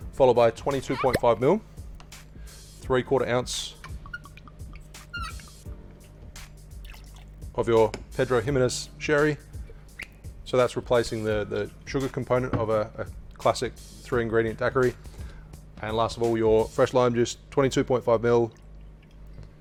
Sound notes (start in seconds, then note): 4.1 liquid glugs; 6.8 liquid pours; 9.9 lid squeaks